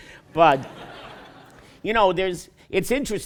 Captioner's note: laughter